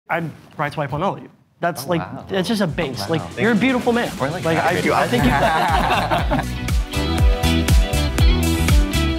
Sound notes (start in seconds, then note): 4.6 all laughing; 6.4 upbeat music